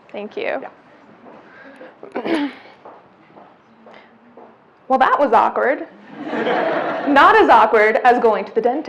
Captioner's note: clears throat; audience laughs